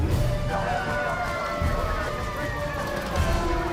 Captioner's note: sirens blaring